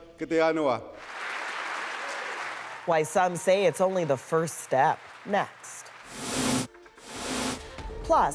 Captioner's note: speaking oji-cree language